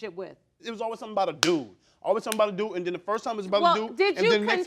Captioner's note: smacking hands